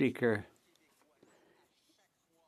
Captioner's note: speaking French